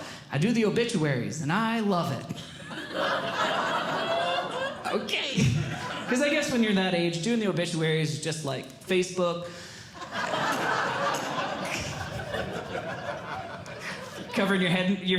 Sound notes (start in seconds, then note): 2.5 audience Laughing; 10.0 audience Laughing